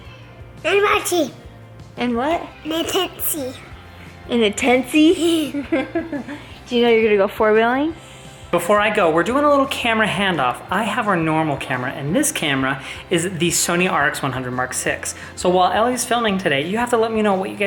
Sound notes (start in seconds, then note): 5.0 laughs